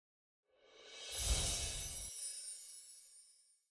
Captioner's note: soft chiming